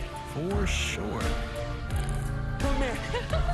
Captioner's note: giggles